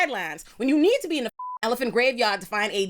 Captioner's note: beep